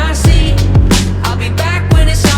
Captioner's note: none